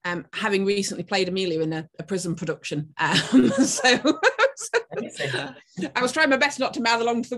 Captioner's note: laughing